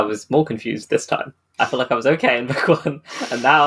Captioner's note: laughing